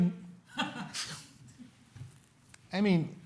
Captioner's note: laughter